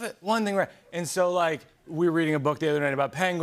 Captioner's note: none